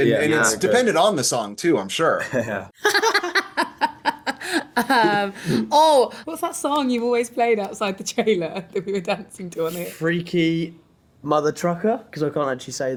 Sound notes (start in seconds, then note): 2.8 laughter